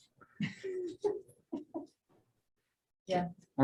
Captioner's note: chuckles